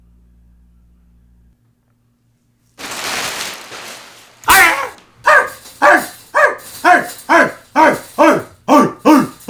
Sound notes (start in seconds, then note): 5.2 animal barking